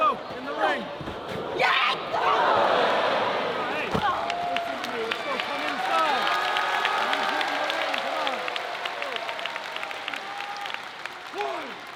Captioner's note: applause